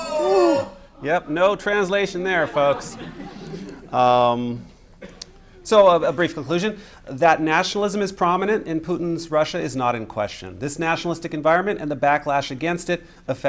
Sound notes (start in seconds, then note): 2.3 laughter